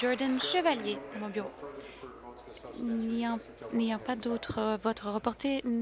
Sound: applause

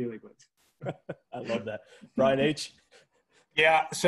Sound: laughs

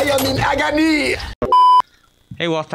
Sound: bars and tone sound effect

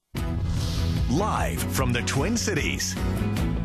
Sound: voiceover

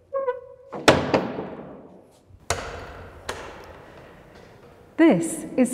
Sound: door gently closes

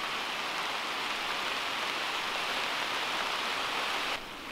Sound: rain pattering

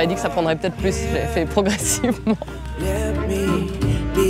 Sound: she laughs

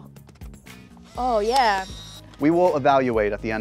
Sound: camera clicks

